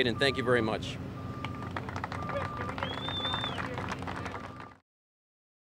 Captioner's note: applause